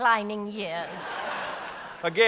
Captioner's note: audience laughs